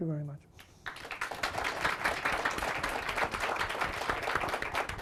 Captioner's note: audience applauding